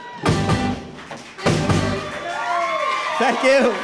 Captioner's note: cheers and applause